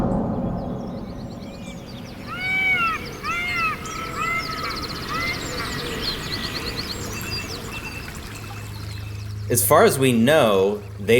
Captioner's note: soundbite of water flowing